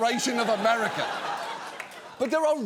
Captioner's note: studio audience laughing